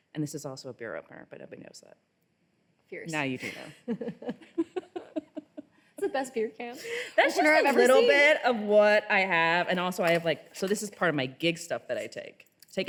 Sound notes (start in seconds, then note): 3.4 both laughing